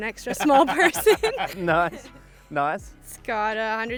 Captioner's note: laughing